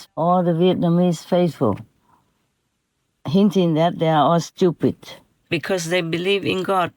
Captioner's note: Vietnamese